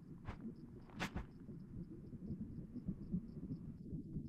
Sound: cloth rustling

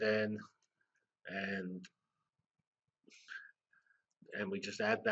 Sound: pause

